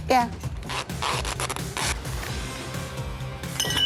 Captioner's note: tape pulling; glass clattering